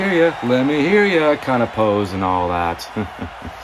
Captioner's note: chuckles